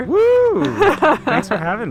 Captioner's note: cheering